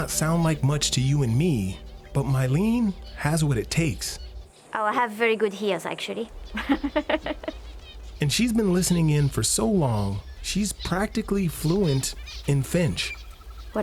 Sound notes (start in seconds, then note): 6.5 laughs